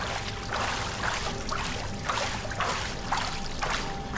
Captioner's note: rhythmic splashing